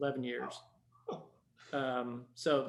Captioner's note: chuckles